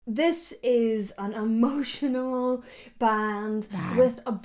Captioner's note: creature growls